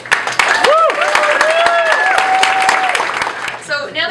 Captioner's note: applause